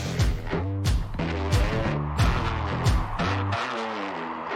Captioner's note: crowd cheers